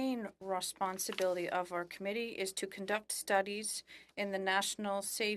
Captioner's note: speaking French